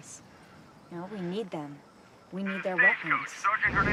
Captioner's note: voiceover